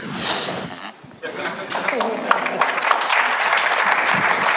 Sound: applause

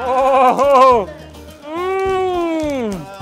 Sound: laughs; exclaims

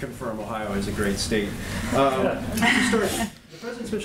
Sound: laughter

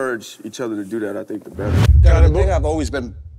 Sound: wind whooshes

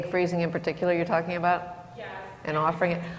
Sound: voiceover

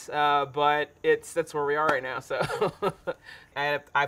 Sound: laughing

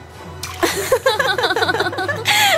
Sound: laughs

